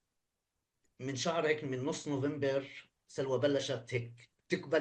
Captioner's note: speaking arabic